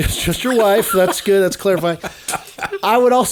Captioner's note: laughing